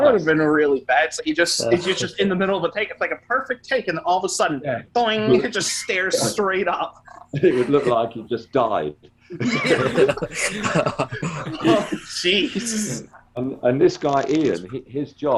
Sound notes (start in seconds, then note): 9.3 laughing